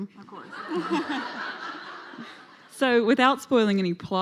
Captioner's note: laughing